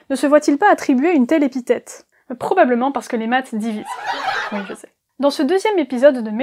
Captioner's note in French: rires